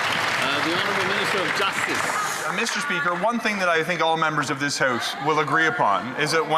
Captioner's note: some Applause